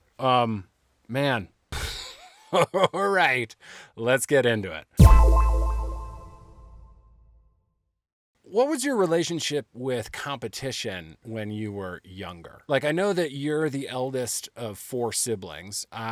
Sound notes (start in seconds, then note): 0.8 laughing; 5.0 sharp tone echoing